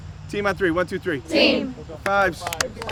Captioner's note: in Unison